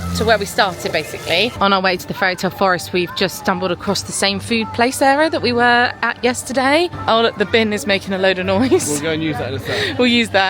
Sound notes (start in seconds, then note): 8.5 chuckling